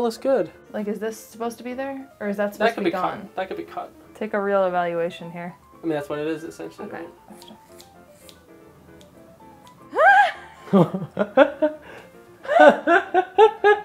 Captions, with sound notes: - No, it looks good! - Like, is this supposed to be there? Or is that. - That can be cut. That can be cut! - Take a real evaluation here. - I mean that's what it is, essentially. - Okay. (snipping) (laughing)